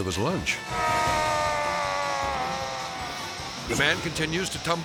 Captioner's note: rider groaning